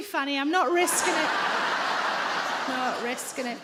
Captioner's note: audience laughing